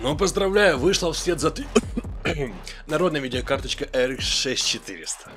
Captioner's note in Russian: кашляет